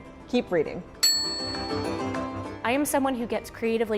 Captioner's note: ding